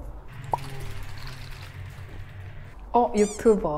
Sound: shake shake

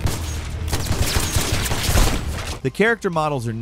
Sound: shots firing

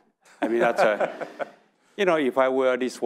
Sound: audience laughing

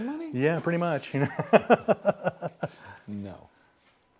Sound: laughing

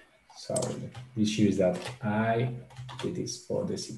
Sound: mouse clicking

